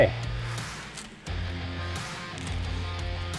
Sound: gravels clanking; rock music plays

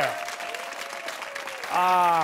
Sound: cheers and applause

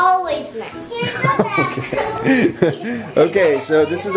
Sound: laughs

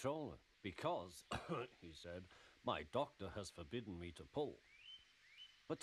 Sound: cough

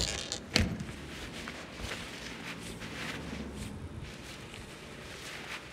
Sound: rustling of dress

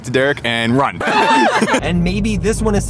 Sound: all laugh

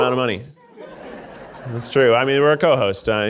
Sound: audience laughing

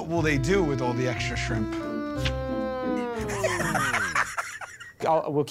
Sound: laughter

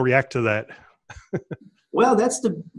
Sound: laughs

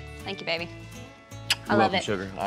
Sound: smooch

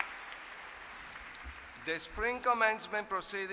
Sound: applause

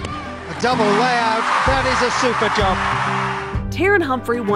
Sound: crowd cheering

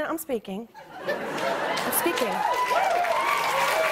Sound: audience laughs; audience cheers

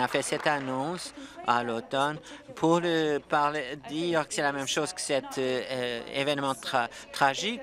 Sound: applause

